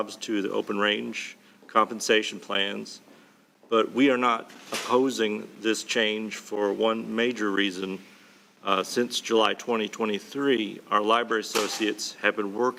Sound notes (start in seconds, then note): none